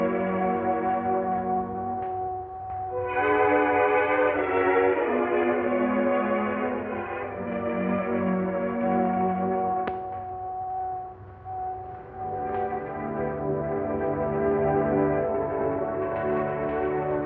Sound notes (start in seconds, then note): none